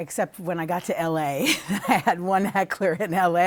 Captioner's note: laughter